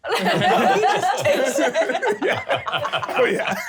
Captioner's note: laughing